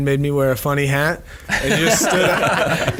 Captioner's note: all laugh loudly